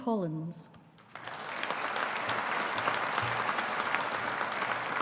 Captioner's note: audience applauding